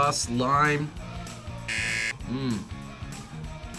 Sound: buzzer

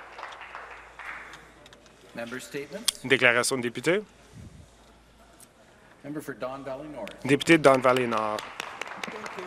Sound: some Applause

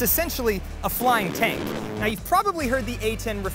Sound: gun buzzing

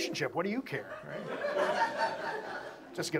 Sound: audience laughs

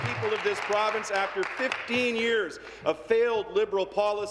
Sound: applause

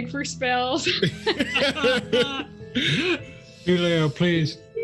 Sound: group laughs

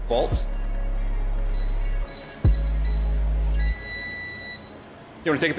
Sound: device beeping

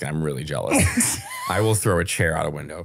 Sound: laughing

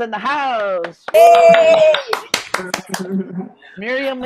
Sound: all cheering

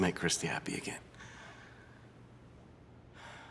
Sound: exhale

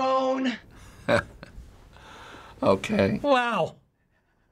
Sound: chuckles

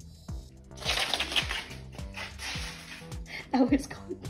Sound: cat scurrying

